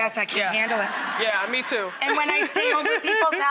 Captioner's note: laughing; laughs